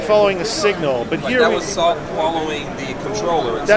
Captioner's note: voiceover